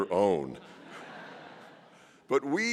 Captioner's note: laughter